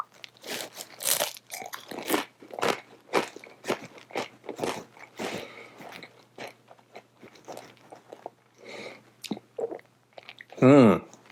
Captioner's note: crunching